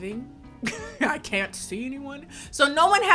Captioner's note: laughs